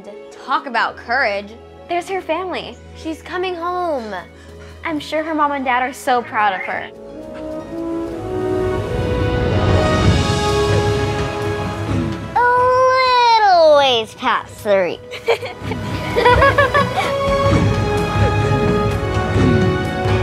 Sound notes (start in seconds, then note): 9.4 upbeat music; 15.1 everyone laughs; 17.4 upbeat music